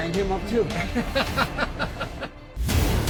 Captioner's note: laughing